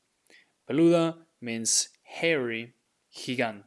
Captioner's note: speaking in Spanish